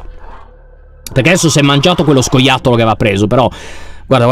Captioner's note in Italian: Tommy grida